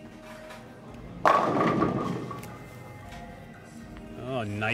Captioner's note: ball thumps; pins clatter